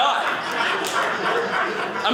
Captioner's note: audience laughing